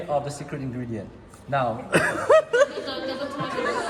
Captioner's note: giggles